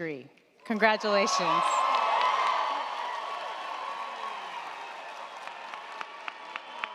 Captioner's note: crowd cheering; crowd clapping